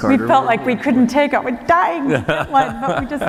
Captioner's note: laughter